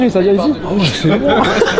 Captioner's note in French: rire